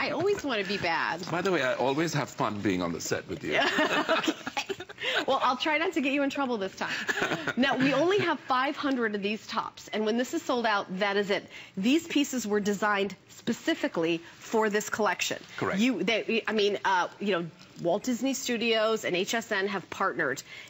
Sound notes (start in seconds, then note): 3.5 laughter; 6.9 laughter